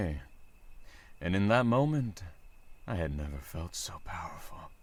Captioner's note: none